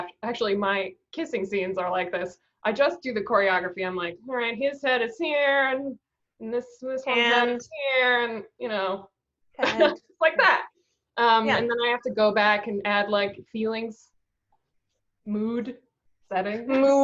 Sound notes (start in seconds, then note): 10.2 laughs